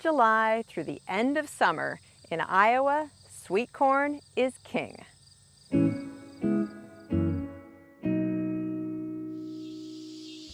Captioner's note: cicadas chirping